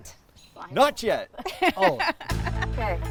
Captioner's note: laughing